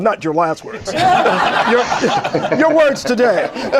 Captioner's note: laughter